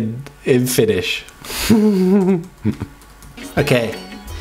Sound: nervous laughter

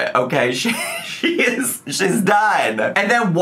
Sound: laughs

